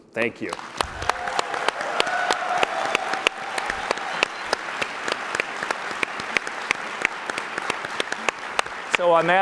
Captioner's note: applause